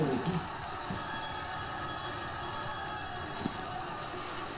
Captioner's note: phone ringing